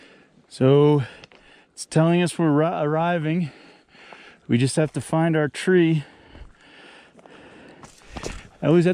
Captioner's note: heave breathing